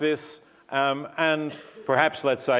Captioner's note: cough